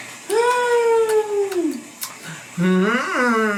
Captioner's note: moans excitedly; moans mockingly